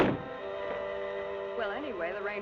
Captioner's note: door rattling; suspenseful music continues; door thumping